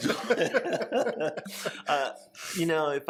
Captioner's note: both laughing